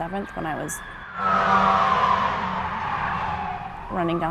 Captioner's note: sirens blaring